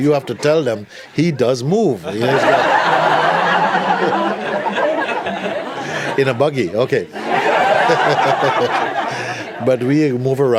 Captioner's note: laughter